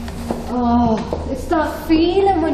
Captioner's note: groans